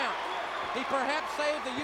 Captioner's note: crowd cheering